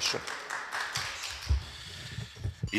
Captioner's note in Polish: oklaski